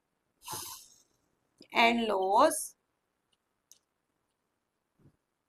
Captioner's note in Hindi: नाक से की जाने वाली आवाज़